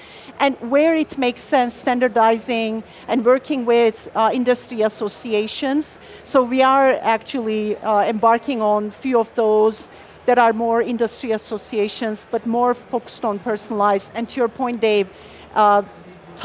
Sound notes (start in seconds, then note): none